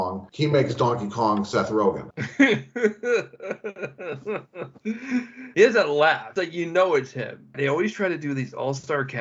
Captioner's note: laughter